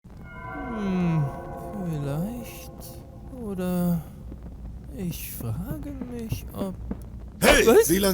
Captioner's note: mumbles to himself